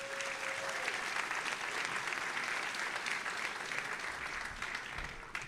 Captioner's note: audience applauding and cheering